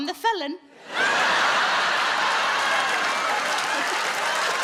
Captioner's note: audience laughing; Sarah laughing